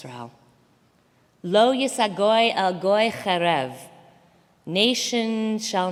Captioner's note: Hebrew